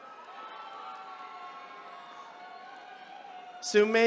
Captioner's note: attendees cheering